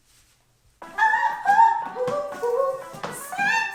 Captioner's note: vocalizes shrilly